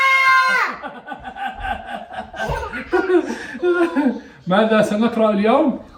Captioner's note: laughs